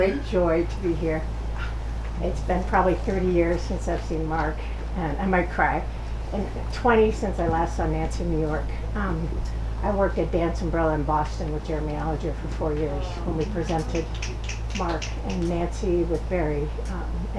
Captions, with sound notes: - It's a great joy to be here. It's been probably 30 years since I've seen Mark, and I might cry, and 20 since I last saw Nancy in New York. I worked at Dance Umbrella in Boston with Jeremy Alliger for four years (audience snapping fingers) when we presented Mark and Nancy with Barry